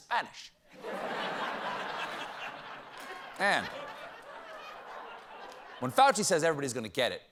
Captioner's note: laughter